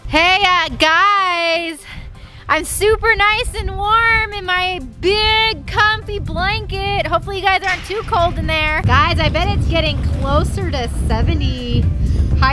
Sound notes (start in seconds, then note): none